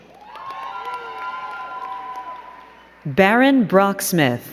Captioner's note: crowd cheering and clapping